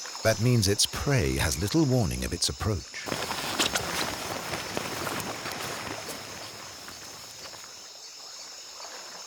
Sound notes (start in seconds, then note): 4.6 frogs croaking